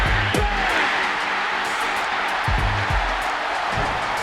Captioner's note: cheering